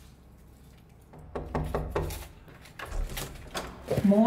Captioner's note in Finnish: Koputus